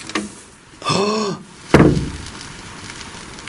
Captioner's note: gasps; static buzz